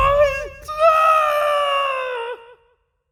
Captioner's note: goo screams